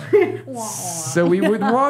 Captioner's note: laughing